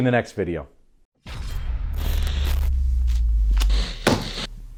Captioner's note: electronic zaps